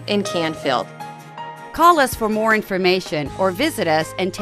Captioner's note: voiceover